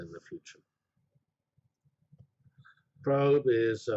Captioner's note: pause